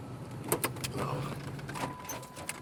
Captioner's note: gear shift clanks; car door chiming